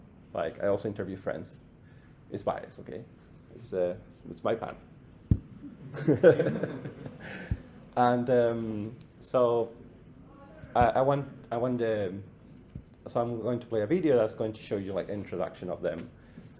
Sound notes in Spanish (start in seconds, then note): 5.7 risas